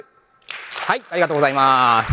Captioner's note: applause